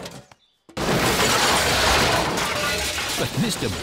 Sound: garbage clattering

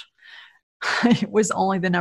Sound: laughs

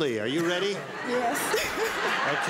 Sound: laughs

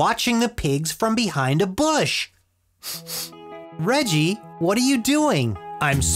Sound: sniff

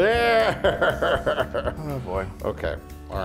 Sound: laugh

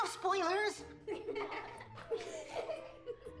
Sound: kids laugh

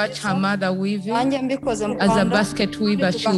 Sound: speaks foreign language

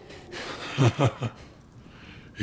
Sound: Volkhv laughs

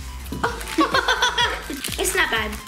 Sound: laughing

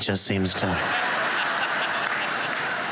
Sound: laughter

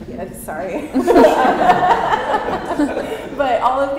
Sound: laughter

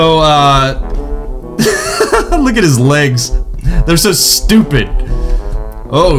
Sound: laughs Hysterically

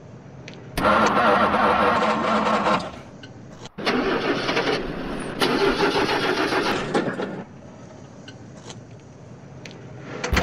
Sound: encendido de carro

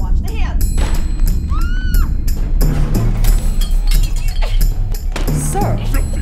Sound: crash, woman's scream, bottles scattering

